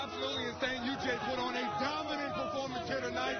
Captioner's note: cheering